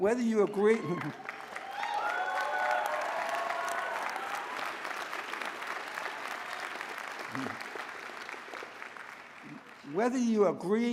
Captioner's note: applause